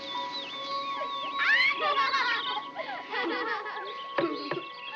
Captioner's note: flora, miles laughing